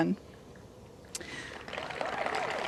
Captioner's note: applause